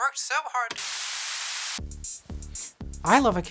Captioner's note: static